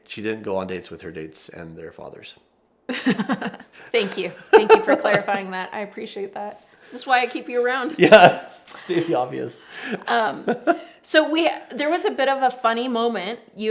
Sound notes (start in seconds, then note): 3.9 laughs; 9.7 laughs